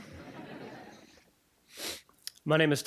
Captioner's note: audience laughing